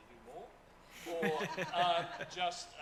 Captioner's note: audience laughs